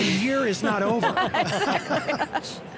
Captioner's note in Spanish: Todos se ríen